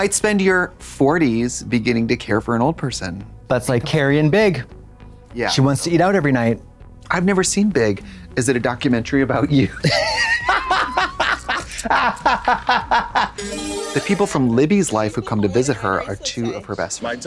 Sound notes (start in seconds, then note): 10.1 blonde Women hoot and holler; 13.4 bright chime